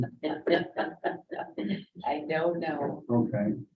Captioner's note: laughing